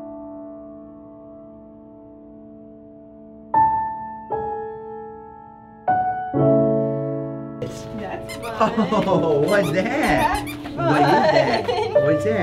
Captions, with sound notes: (toy squeaks) - That's fun. - What's that? - That's fun. - What's that?